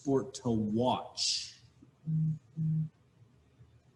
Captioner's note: laughs